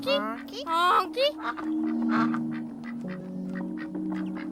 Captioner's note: ducks quacking